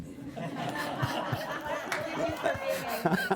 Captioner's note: laughter